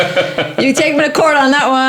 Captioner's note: laughing